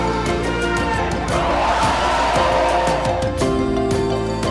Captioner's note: applause